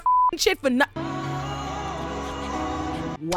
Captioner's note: beep; crowd booing